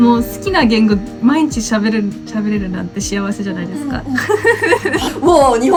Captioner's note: haha